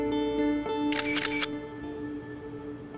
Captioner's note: Snap clicked